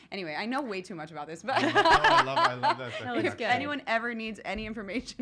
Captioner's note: laughs